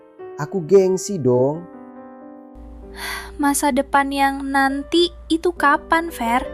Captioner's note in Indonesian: menghela napas